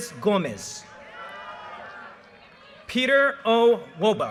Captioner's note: audience cheers and applause